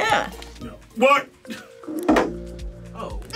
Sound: laughs

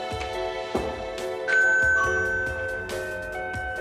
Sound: doorbell ringing

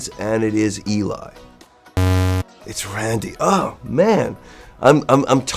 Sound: buzz

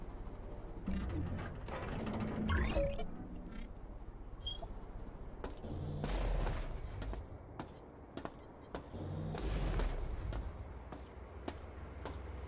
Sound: footsteps

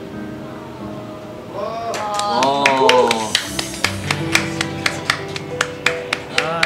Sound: applause

